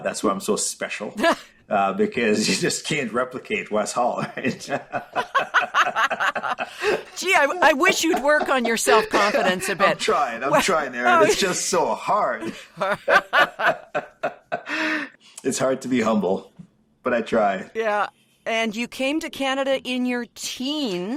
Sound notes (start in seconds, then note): 4.1 laughter; 12.4 laughter